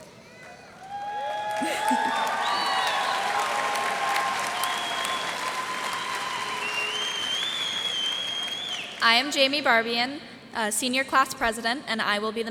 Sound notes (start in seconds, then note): 0.4 cheers and applause